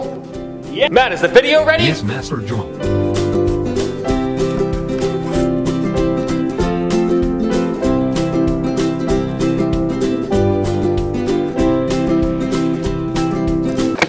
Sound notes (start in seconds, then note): 1.8 robot voice